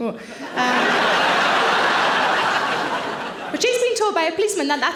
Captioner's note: audience laughing